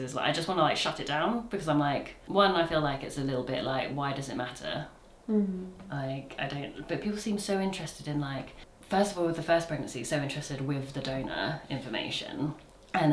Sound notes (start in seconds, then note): none